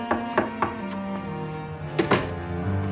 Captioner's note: knocking on door